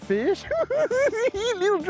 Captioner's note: cackling